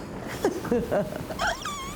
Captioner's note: giggles